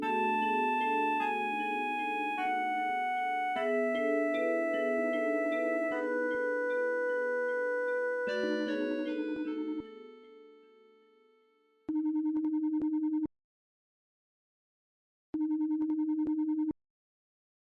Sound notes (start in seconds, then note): 11.8 phone line trilling